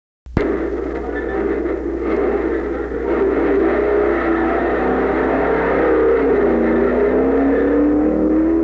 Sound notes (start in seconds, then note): 0.4 engine revving